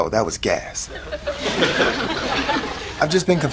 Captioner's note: audience laughs